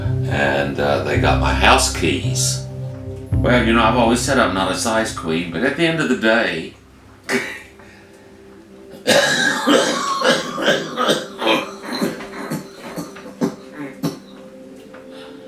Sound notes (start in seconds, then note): 7.3 laughs; 8.9 coughing